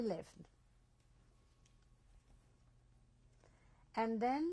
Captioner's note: pauses for 3 seconds